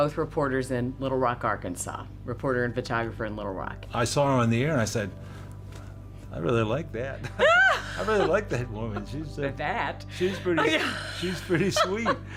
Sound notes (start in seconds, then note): 7.2 laughs